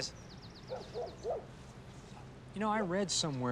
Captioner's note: dog barks